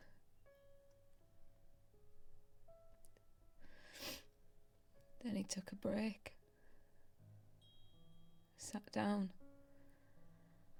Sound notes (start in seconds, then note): 0.1 soft haunting piano music continues; 3.8 sniffles